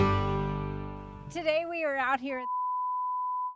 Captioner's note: beep